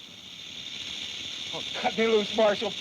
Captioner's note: snake rattles